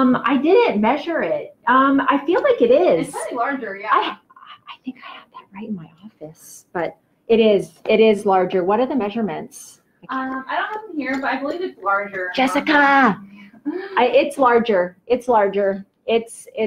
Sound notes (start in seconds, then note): 4.3 whispers; 12.9 normal voice